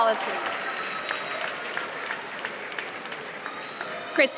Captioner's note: applause